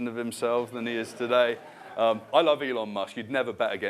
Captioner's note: laughter